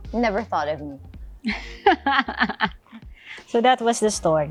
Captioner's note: laughs